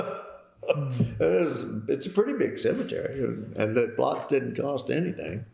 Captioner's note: laughter